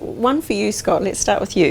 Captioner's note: none